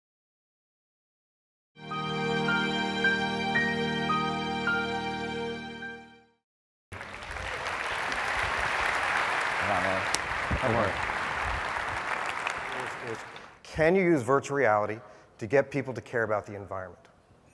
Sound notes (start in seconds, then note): 6.9 applause